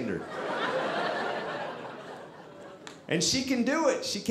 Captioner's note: audience laughing